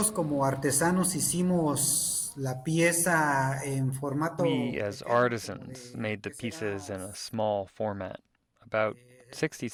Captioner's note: through translator